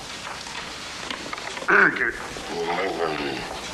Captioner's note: coughing; grumbling